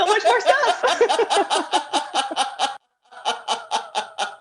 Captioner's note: laughter